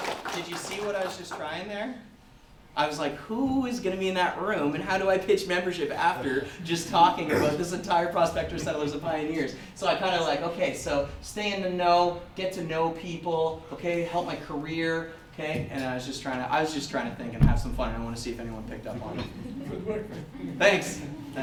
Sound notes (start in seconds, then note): 19.1 audeince laughter